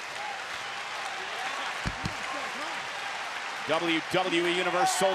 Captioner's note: audience applauding